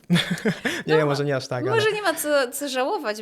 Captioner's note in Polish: śmiech